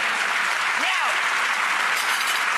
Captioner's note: audience applause